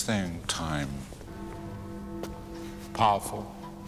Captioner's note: bell chiming